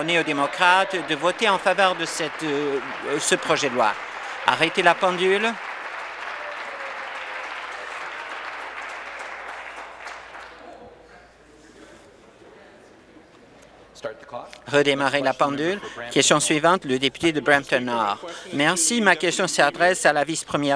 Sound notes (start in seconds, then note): 3.2 applause